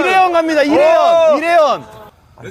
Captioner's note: confident